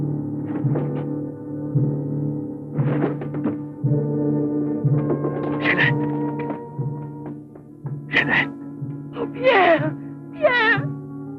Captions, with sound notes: (thuds) - Jeanette. Jeanette! - Oh, Pierre. Pierre!